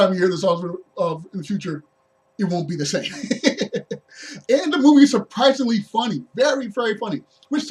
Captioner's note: laughs